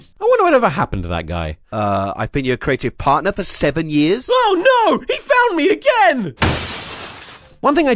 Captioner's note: smash